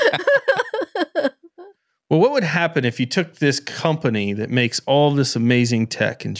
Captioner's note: laughing